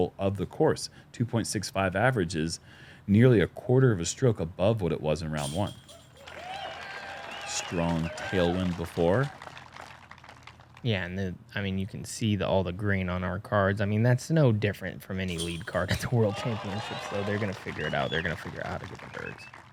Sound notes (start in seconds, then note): 6.1 applause